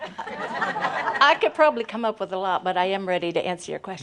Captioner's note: laughter